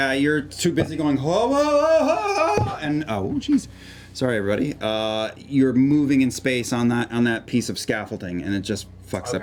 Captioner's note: yells